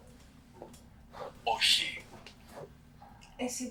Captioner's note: achmet – artificial male voice